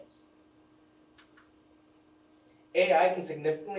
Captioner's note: pointer clicks